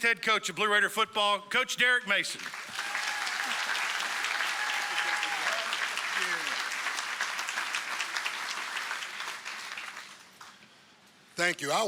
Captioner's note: applause